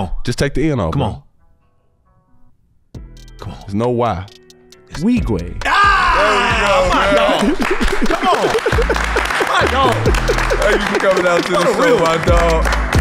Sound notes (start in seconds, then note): 5.5 shouts; 6.2 laughs; 6.6 everybody claps; 12.7 trap music